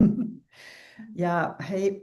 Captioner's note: chuckles